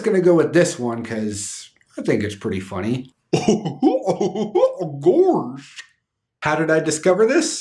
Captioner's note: goofy laughing